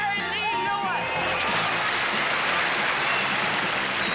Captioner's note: applause